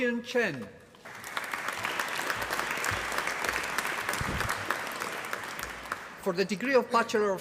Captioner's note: applause